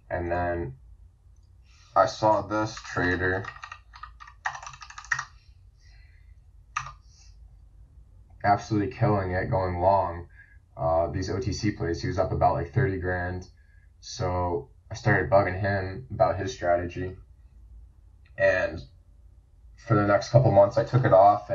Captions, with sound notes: And then I saw this trader. (keyboard clicking) Absolutely killing it, going long. These OTC plays, he's up about like thirty grand. So I started bugging him about his strategy. And for the next couple months I took it off